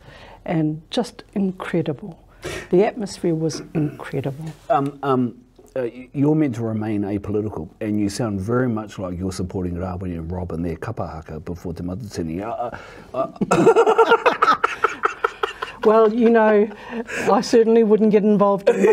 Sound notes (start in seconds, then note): 13.4 both laughing